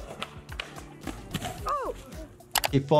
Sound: metal clanging; body thuds; onlooker yells

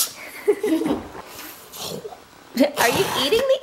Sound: giggles

